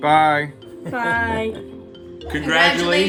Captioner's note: man laughs